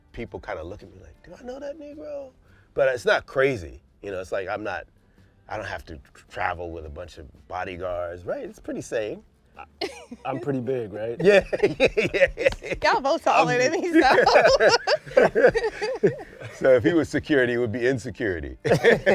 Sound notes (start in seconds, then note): 11.2 laughs; 13.8 laughter; 18.6 laughter